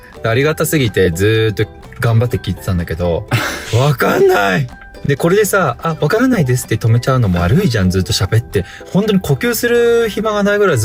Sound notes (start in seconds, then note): 3.3 laughs